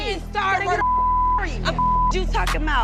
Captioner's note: beep